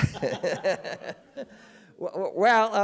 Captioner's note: laughs